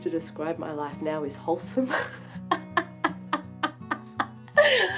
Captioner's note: laughs